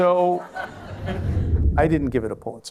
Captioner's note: laughter